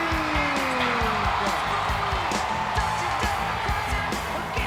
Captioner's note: crowd cheering